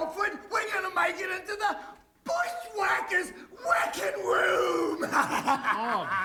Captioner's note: laugh